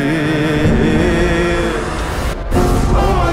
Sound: thunder; background music intensifies

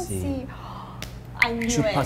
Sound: gasp

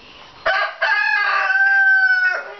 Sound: crowing

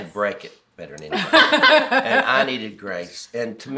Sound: all laughing

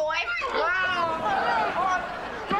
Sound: groaning

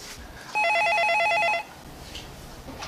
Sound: phone ring

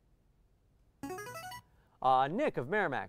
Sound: player buzzer

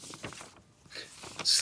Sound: paper rustling

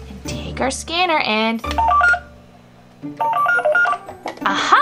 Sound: beeping

